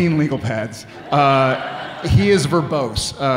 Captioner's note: audience laughing